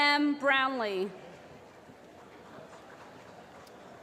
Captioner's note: applause